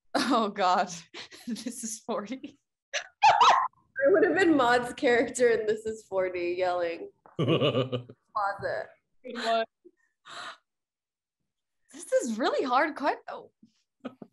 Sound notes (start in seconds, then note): 3.2 woman laughing; 7.4 laughing